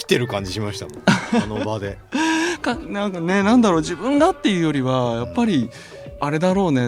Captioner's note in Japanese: 笑い